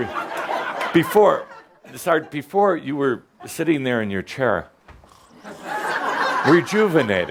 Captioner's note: laughter